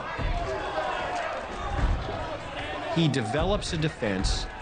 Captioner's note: crowd heckling